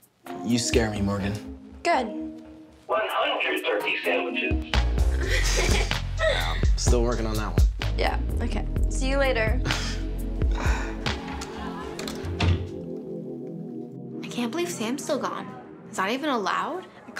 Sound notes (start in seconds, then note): 5.1 laughing